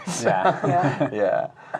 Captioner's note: laughing